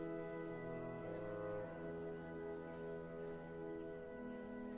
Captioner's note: none